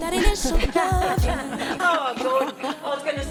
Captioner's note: laughs